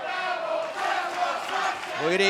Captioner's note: fans chanting